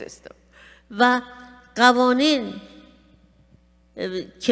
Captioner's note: speaking persian